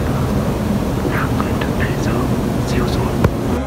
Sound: quietly

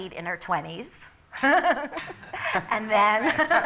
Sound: laughter

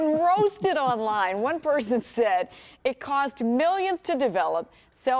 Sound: laughter

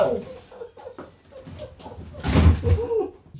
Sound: laughing

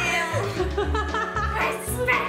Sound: laughs

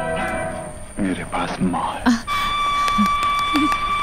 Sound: audio from the Television

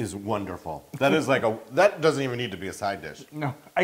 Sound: laugh

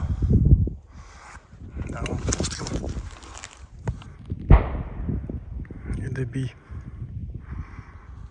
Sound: remote explosions

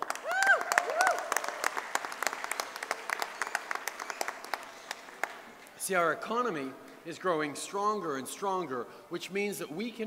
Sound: cheers & applause

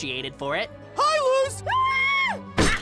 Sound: screams

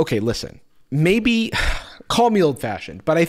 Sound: sighs

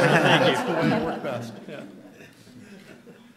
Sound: laughter

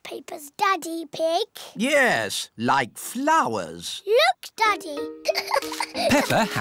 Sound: giggles

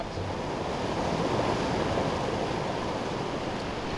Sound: rushing water

